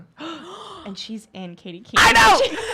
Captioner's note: women gasp